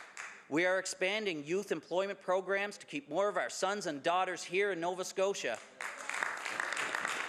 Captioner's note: some Applause